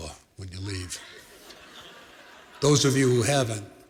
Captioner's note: laughter